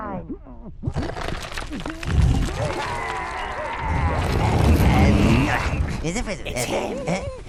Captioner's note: grinding of stone and sounds of minions exerting effort